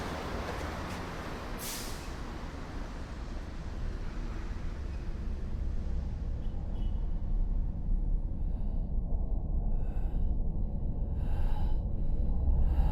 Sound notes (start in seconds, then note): 8.1 breathing heavily